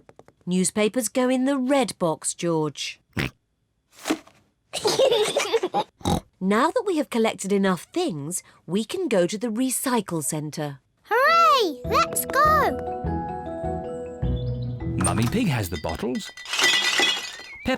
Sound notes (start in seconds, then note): 3.4 snorts; 4.7 kids giggle; 14.9 bottles rattle